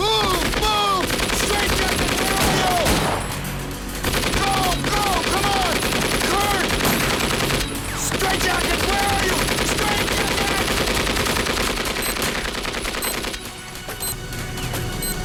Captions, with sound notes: - Move, move, straight jacket, where are you? Go, go, come on, Kurt! (guns firing) Straight jacket, where are you, straight jacket! (explosives beeping)